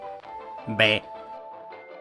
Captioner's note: Minecraft sheep impression